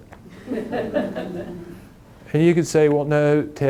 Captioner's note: audience laughing